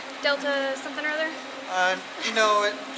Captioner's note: none